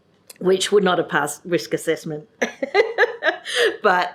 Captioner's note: laughs